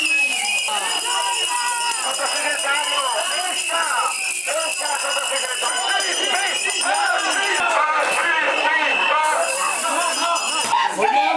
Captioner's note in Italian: Applauso